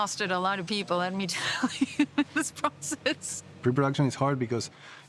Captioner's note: laughs